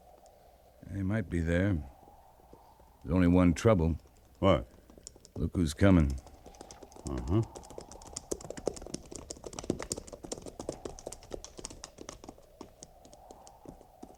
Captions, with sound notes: They might be there. There's only one trouble. What? Look who's coming. Uh-huh. (fire crackling)